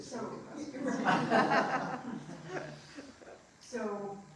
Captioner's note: laughing